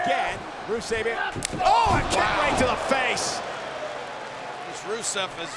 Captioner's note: blow thudding